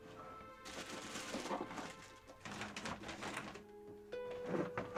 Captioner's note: paper rustling